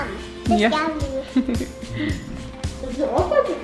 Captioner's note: laughing; upbeat music